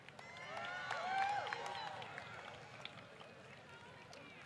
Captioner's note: applause